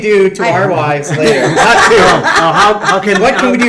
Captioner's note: all laugh